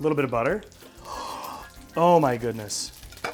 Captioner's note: gasps